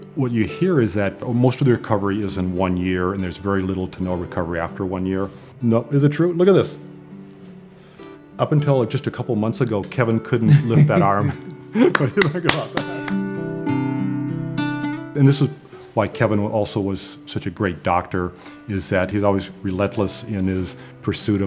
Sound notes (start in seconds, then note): 10.4 both laugh; 11.8 applauds